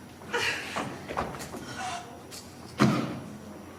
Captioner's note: servant gasps